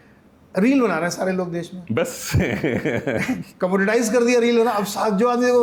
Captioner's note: laughs